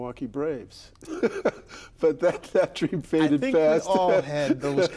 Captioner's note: laughing